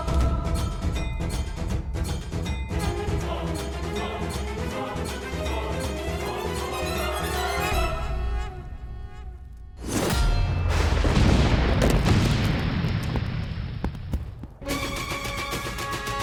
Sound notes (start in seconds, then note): 10.6 lightning crackling; 10.7 volcano erupting